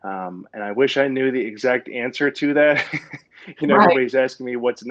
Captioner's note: laughs